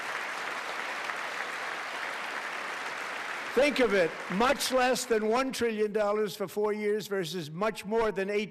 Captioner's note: applause